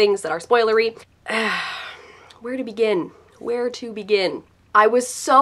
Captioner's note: sigh